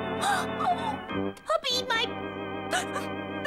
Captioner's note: sobbing